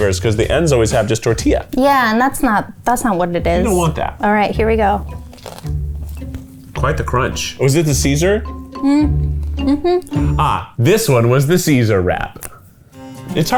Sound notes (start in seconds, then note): 5.1 crunches; 5.6 quirky music